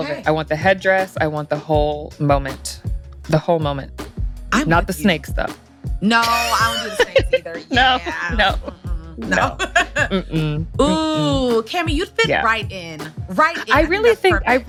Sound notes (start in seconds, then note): 6.2 laughs